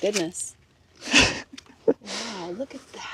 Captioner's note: chuckling